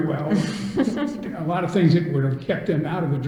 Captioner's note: all laugh